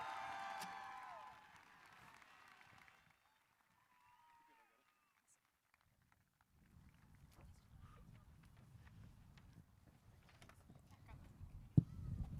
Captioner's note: cheering and applause